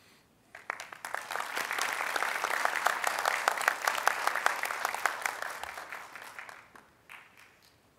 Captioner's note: applause